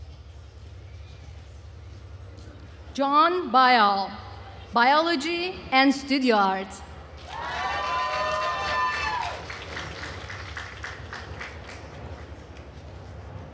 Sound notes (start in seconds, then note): 7.2 attendees cheering and applauding